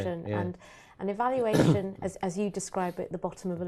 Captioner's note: cough